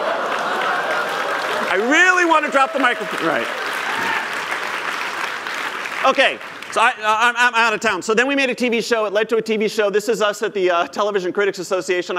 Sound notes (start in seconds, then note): 0.0 laughter; 7.3 applause